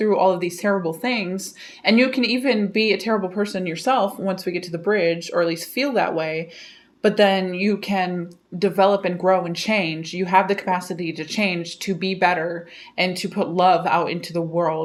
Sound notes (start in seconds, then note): none